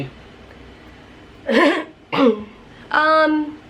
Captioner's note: clears throat